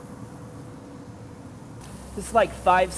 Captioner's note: sizzling